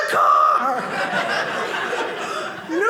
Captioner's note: audience laughing